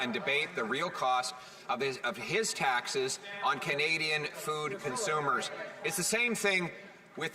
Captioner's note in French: voix de l'interprète